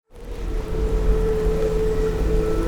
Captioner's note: wind blowing; gentle music